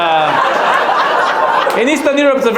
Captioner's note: audience laughs